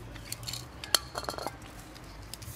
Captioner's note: clattering